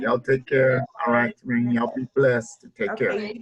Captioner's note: laugh